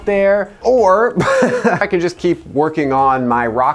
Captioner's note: chuckles